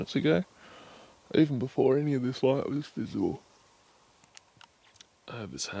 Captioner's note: yawn